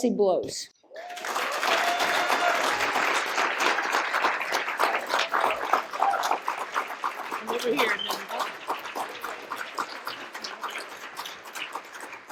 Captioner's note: cheers and applause